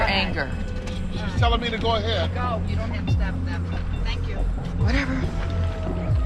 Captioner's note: chuckles